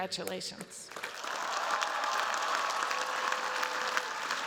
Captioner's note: cheers, applause